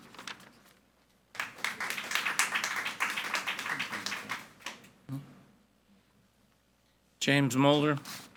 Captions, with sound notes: (audience applauding) - James Mulder.